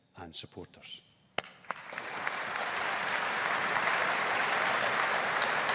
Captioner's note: audience applauding